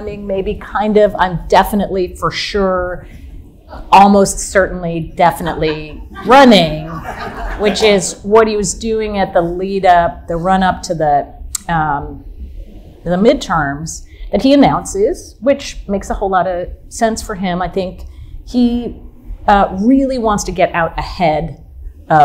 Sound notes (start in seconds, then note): 6.7 audience laughing softly